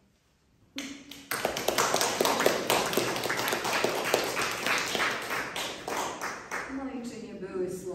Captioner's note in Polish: oklaski